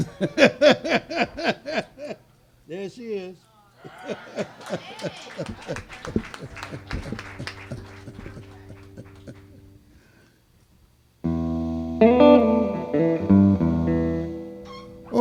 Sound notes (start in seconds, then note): 0.0 audience laughing; 0.0 laughing; 3.6 laughs; 3.8 audience cheering and applauding; 11.2 guitar strumming